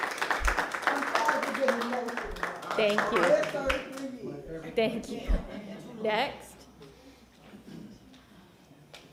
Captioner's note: applause